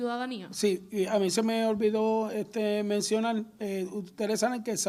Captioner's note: speaks in foreign language